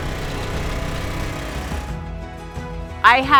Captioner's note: engine whirring; inspirational music continues